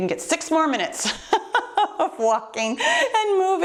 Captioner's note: laughs